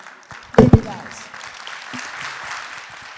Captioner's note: audience cheers and applauds; microphone noise; audience applauds